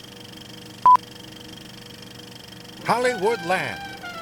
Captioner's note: beep